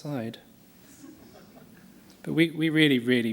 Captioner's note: laughter